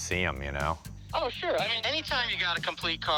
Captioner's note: on phone